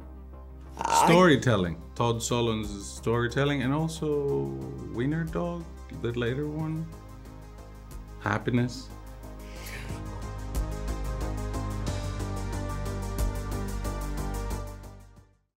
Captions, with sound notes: Storytelling, Todd Solondz's Storytelling, and also Wiener-Dog, the later one. Happiness. (Emma draws in breath) (electronic music)